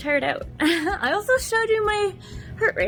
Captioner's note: giggles